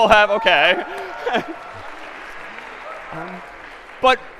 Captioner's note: cheering and applause